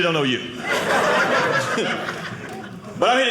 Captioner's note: audience laughing